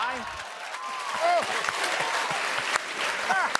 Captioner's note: laughter and applause